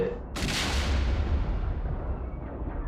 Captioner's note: nearby explosion